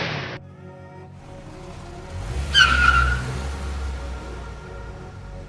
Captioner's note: car engine starts up; tires squeal